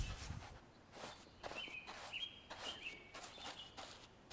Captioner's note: bristles rustling